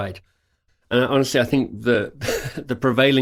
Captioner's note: laughs